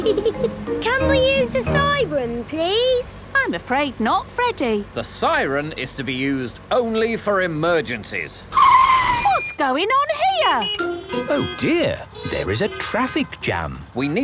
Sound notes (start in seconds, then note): 8.4 brakes screeching; 10.1 honking